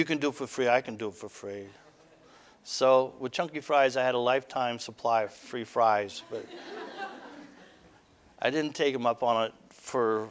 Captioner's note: audience: Laughter